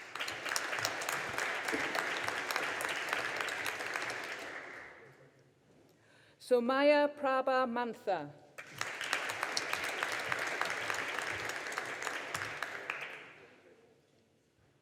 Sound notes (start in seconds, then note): 0.0 audience applauding; 8.6 audience applauding